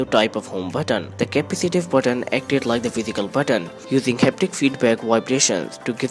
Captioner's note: vibrations